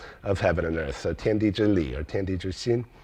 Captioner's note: speaking in foreign language